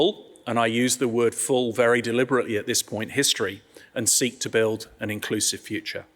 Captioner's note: none